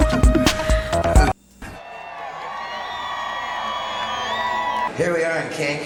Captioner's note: cheering